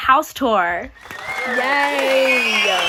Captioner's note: crowd applauding